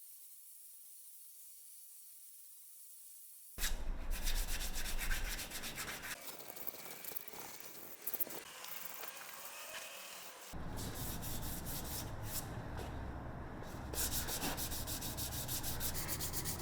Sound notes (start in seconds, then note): 4.1 sandpaper scraping